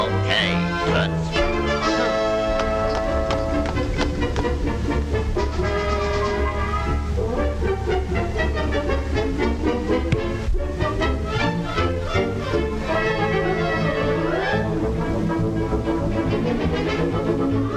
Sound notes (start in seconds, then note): 3.1 horse clopping; 4.7 industrious music